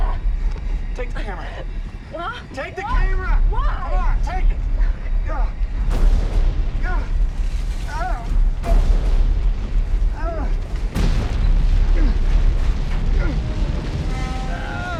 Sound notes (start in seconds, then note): 6.7 booming; 6.7 groaning